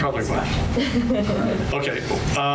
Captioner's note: laughs